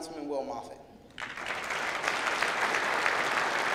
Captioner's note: clapping